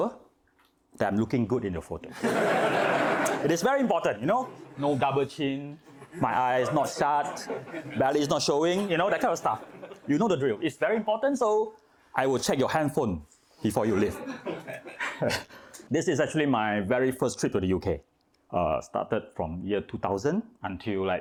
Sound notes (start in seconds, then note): 2.4 laughing